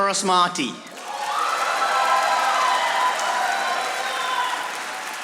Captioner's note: audience applauding